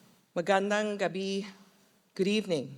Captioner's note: foreign Language